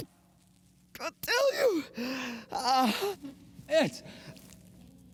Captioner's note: moans